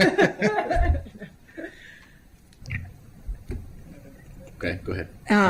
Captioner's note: laughter